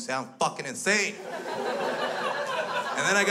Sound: crowd laughs

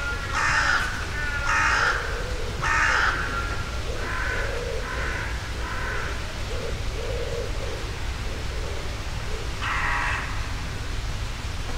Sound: the sound of wind in the trees and crows

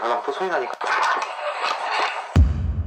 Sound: crying

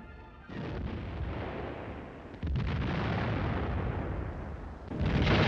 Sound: bombs exploding and guns firing

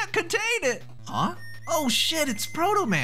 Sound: whistle

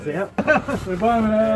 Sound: soft laughing

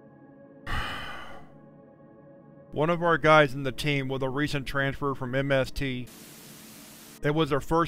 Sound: sighs

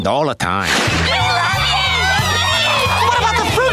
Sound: screaming

